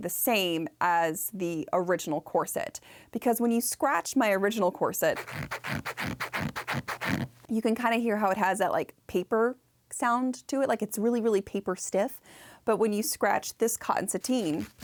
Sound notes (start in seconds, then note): 5.1 scratch scratch scratch